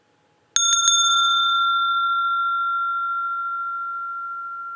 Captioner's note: sound of the bell